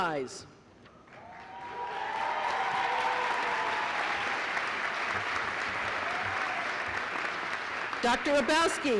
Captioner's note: applause